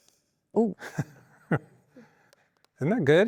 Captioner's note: laughing